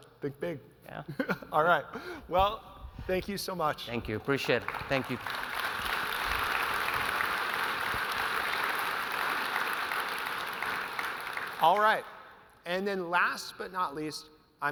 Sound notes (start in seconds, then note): 0.7 laughs; 5.9 audience applauding